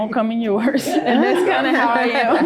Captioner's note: group laughing